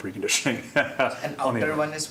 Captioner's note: laughing